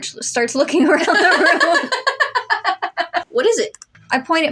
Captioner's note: both Laugh